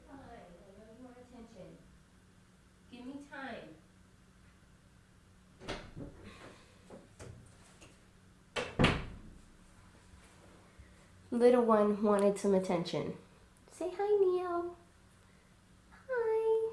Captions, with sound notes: (Talking to cat in background) (Door opening) Little one wanted some attention. Say "HI, Neo"